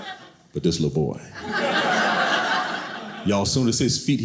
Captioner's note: audience laughing